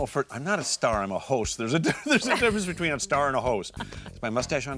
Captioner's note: laughs